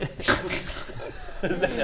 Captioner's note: surprised laugh